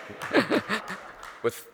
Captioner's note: audience Applauding